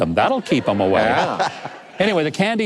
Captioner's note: laughing